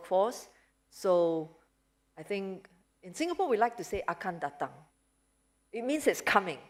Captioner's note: non-english speech